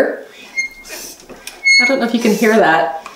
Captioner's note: press squeaks